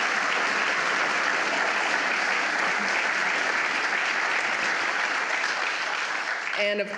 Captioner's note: applause